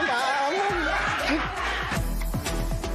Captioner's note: laughter